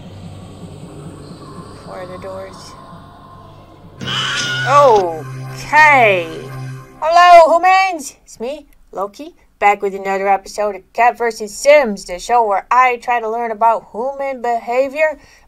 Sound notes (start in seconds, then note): 4.0 scream